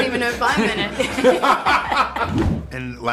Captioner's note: laughing